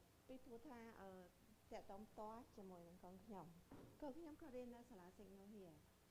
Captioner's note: speaking in foreign language